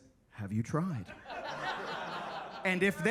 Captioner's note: attendees laughing